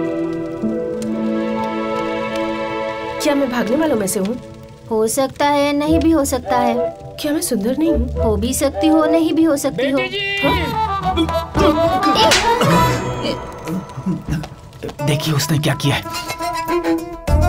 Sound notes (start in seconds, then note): 11.7 fire crackles